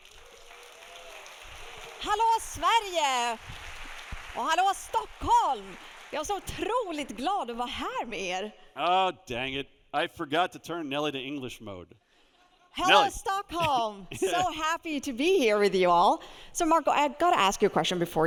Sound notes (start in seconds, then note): 0.0 audience applauds; 2.3 speaks Swedish; 6.4 speaking Swedish